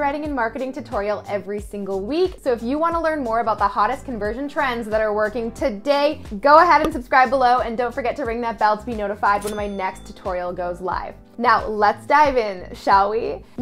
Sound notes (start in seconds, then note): 9.4 bell rings